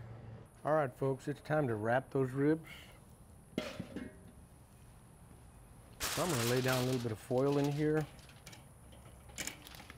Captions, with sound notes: All right, folks, it's time to wrap those ribs. (metal thudding) So, I'm gonna lay down a little bit of foil in here,